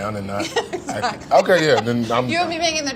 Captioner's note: laughs